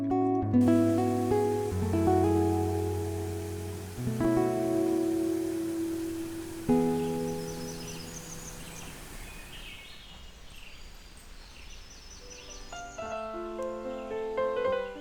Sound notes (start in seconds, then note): 0.8 running water; 6.7 birdsong; 12.6 piano music playing